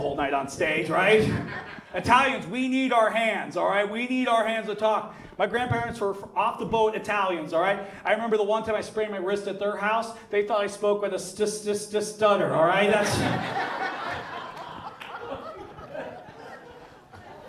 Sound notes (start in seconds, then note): 12.9 audience laughs